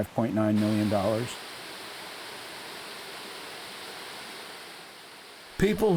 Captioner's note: falling water